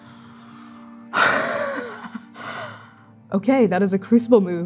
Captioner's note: gasping, laughing